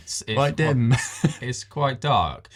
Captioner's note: laughs